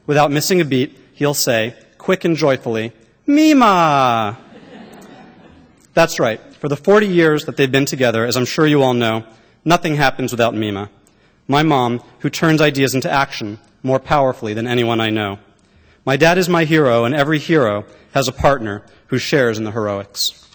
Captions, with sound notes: Without missing a beat, he’ll say, quick and joyfully, “Memah.” (laughter) That’s right. For the 40 years that they’ve been together, as I’m sure you all know, nothing happens without Memah. My mom, who turns ideas into action, more powerfully than anyone I know. My dad is my hero, and every hero has a partner who shares in the heroics.